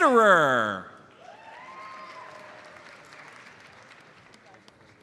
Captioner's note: audience cheers and applauds